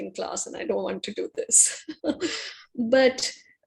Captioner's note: laughs